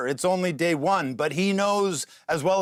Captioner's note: none